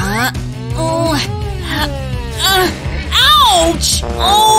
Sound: groans

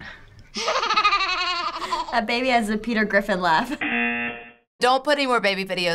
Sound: baby giggling; chuckling; buzzer

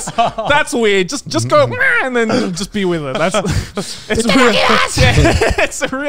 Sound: squawks

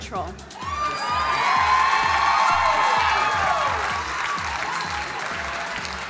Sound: crowd cheering and applauding

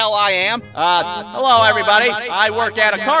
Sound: microphone echo effect

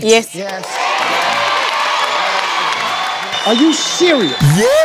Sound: cheering and clapping

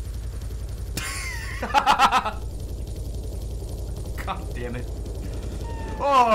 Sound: laughs; laughs

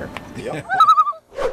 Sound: loon call

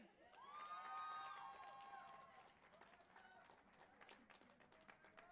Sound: audience applauding and cheering

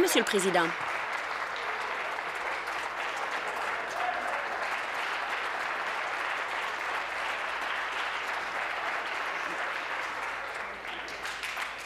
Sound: applause

